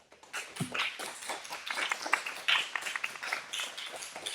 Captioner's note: audience clapping